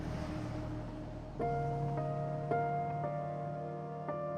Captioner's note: car engines roaring